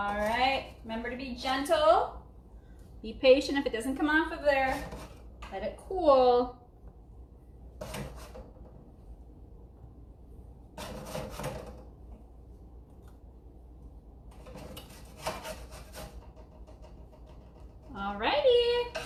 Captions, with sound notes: All right. Remember to be gentle, be patient if it doesn't come off of there, let it cool. (metal scrapping) All righty.